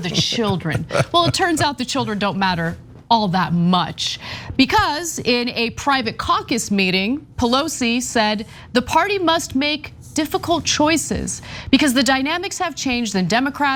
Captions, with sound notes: the children. [LAUGH] >> Well, it turns out the children don't matter, all that much. Because, in a private caucus meeting, Pelosi said the party must make difficult choices. Because the dynamics have changed